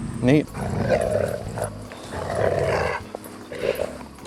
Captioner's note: dogs growling